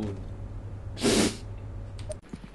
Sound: sniff

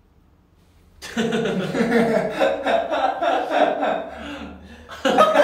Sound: laughs by looking at each other

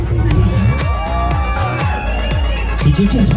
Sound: crowd cheers

